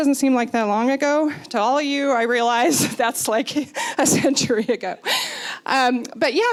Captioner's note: laughing